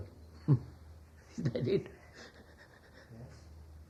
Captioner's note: laughs